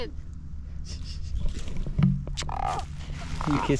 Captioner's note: chuckles